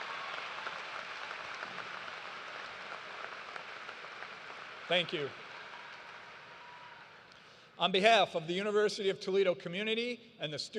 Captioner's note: cheers and applause